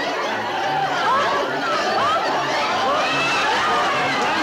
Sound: laughing

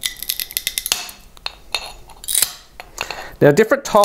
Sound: crackling and snapping

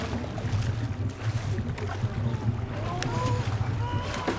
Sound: fish thrashing; straining

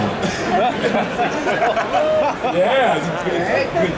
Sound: audience laughing

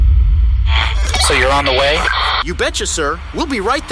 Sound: over CB radio

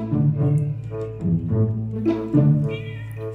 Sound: neighbor`s cat also calling for help

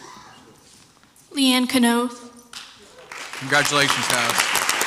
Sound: crowd applauds

